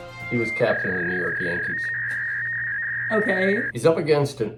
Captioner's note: sport music; dial up tone